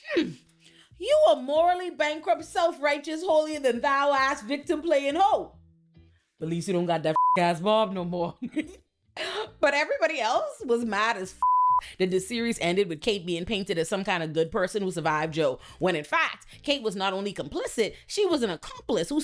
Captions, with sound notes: hmm, you are morally bankrupt, self-righteous, holier than thou ass victim playing ho. At least you don't got that (beep) ass bomb no more. But everybody else was mad as (beep) that the series ended with Kate being painted as some kind of good person who survived Joe. When in fact, Kate was not only complicit, she was an accomplice who